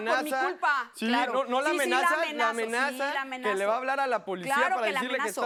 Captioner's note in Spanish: Hablan al unísono